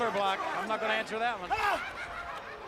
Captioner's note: crowd chatter